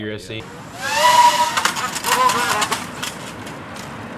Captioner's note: drone crash